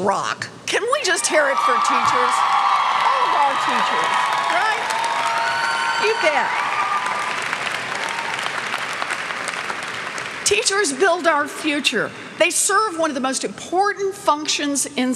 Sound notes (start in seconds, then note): 2.7 cheers; 4.8 cheers; 7.3 clapping